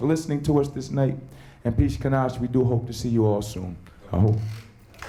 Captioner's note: speaking native language